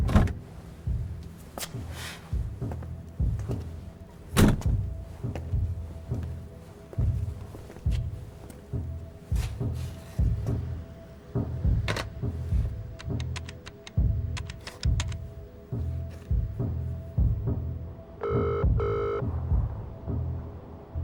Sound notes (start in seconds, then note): 0.3 light dramatic music; 4.3 door thuds; 14.5 buttons clicking; 18.2 phone rings